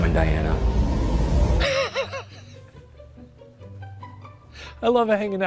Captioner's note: laughs; soft bright music